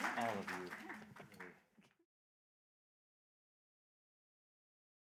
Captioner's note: laughter